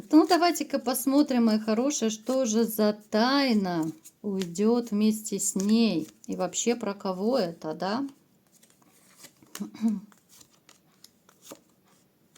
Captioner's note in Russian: откашливается